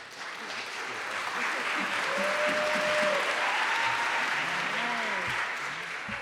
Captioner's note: applause